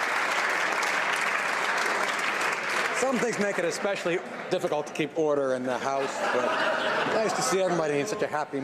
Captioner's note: some Applause